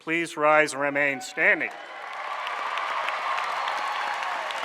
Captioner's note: applause